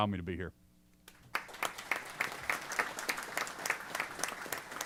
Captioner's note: applause